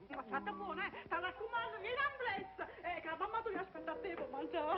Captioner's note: speaking spanish